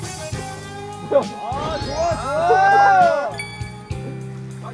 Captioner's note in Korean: 환호하는 9n년생들